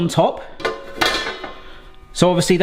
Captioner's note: metal clanking